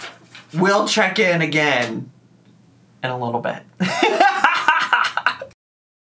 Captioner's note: laughs